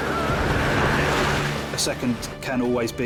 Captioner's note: waves crash